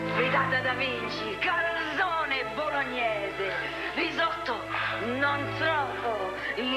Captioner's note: italian accent